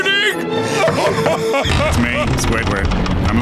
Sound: screaming

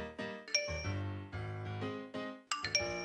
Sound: chime

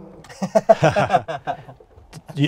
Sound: laughs

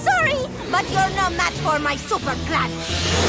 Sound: snarling

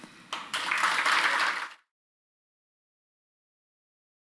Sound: audience applauding

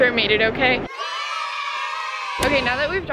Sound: cheering

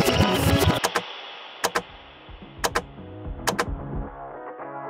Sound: tape whirs; upbeat music; upbeat music; button clicks

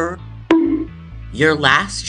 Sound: bonk

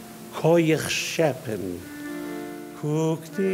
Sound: speaking in foreign language; singing in foreign language

